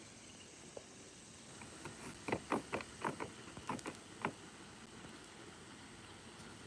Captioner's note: scratching noises